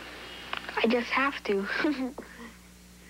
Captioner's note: giggles